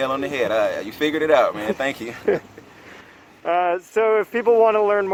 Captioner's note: both laughing